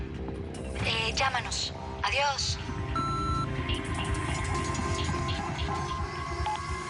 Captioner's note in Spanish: Bip